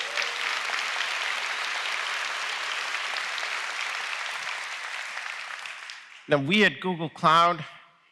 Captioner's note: applause